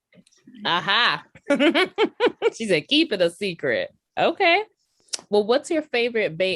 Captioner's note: laughter